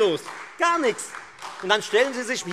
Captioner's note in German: Beifall Freie Demokraten und SPD